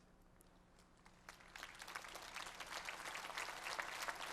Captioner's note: applause